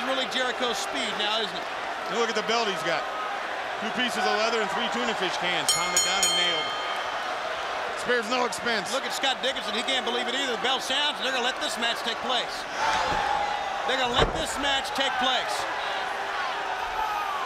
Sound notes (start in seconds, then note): 8.2 bell ringing; 15.2 crowd cheering